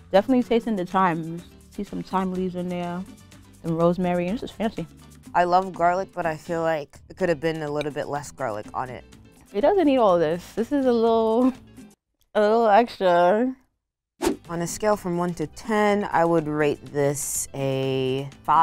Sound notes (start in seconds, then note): none